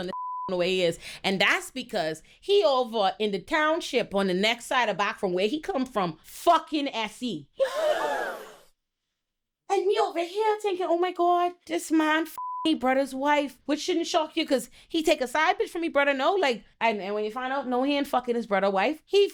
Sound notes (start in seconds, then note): 0.0 beep; 7.6 gasps; 12.3 beep